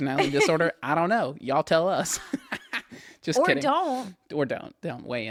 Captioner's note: laughs; laughs